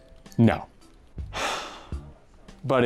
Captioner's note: sighs sadly